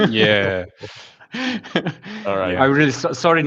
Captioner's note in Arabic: ضحك